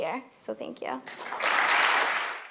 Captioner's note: applause